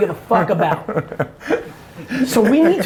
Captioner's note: laughs